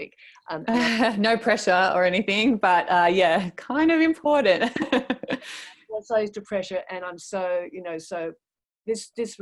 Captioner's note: laughs